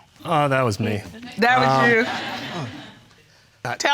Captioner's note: audience chuckles